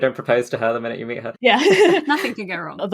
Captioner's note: laughs